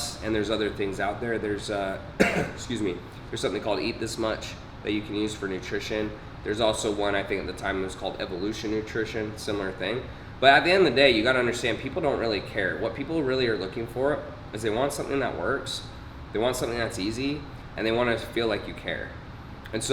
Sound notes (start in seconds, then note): 2.2 clearing throat